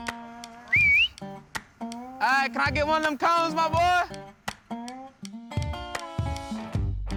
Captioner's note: whistling